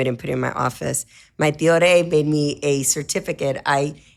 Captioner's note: speaks in foreign language